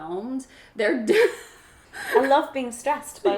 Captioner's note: laughs